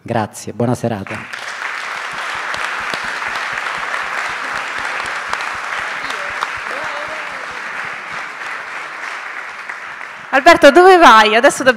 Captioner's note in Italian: Applauso